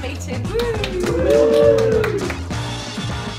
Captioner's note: cheers